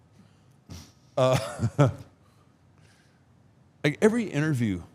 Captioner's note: Mark laughs